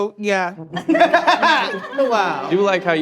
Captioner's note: all laughing; laughing